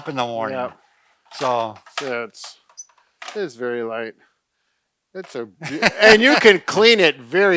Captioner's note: laughs